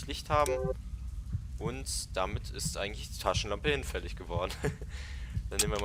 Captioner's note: giggles